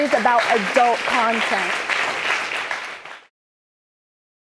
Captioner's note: audience clapping